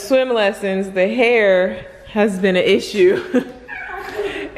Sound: laughs

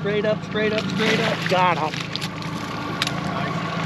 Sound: fish splashing

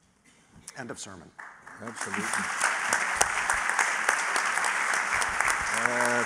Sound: applause

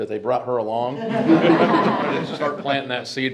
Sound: group laughs

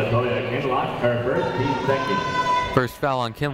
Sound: muffled voice speaking over speaker

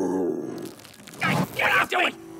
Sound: both yelp

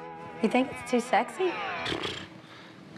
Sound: scoffs

